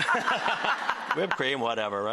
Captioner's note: laughter